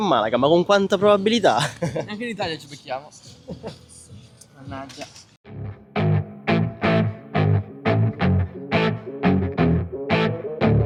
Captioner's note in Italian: risate